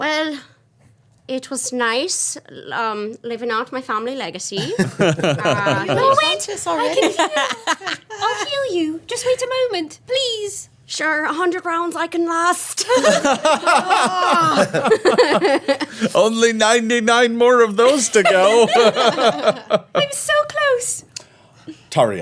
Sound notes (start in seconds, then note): 4.6 everyone laughing; 12.8 everyone laughing; 18.9 laughing